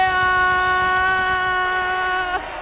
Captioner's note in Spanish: Aplausos